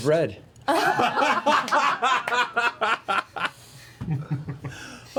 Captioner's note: laughter